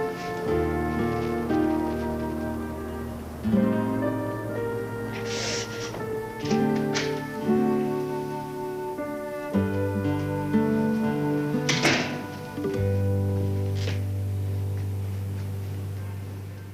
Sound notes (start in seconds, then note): 5.8 door latch clicks; 11.7 door clicks shut; 13.5 music fades out